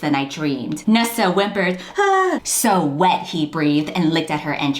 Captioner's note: whimpers